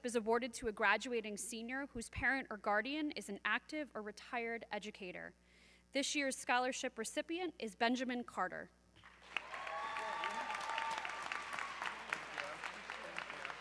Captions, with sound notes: is awarded to a graduating senior whose parent or guardian is an active or retired educator. This year's scholarship recipient is Benjamin Carter. (audience cheering)